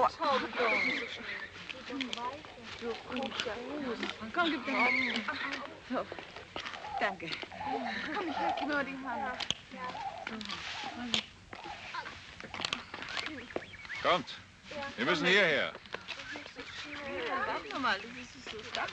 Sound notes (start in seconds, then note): 4.0 birds chirping